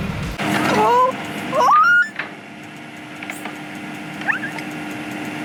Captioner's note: screaming